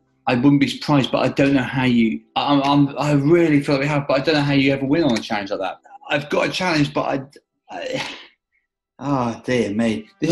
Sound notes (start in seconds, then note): 7.7 sighs